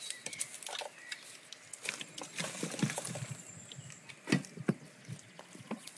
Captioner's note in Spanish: Crujir de leña seca